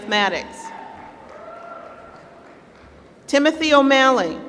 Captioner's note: applause